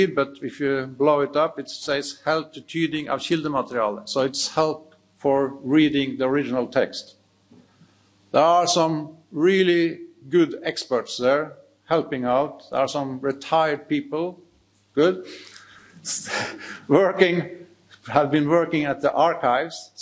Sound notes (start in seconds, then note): 2.8 speaks in foreign language; 16.0 chuckling